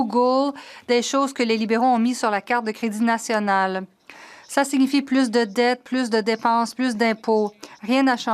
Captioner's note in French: voix de l'interprète